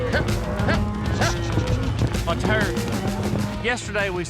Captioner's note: cows moo